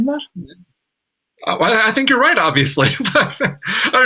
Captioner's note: laughs